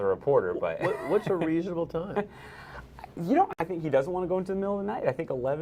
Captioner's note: laughter